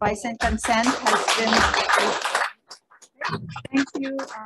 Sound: members applause

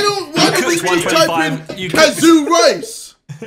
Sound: all laughing

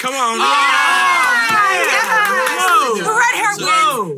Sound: hosts cheering

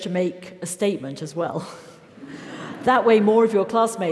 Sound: laugh

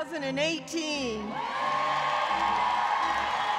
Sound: cheering

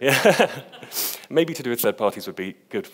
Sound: laughs

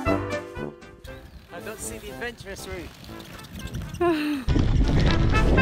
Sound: laughs

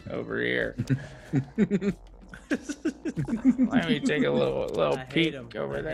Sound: laugh

